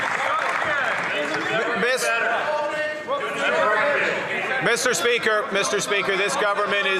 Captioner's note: some Applause